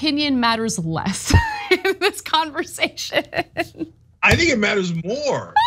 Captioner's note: laugh